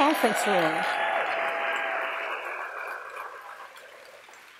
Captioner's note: audience applause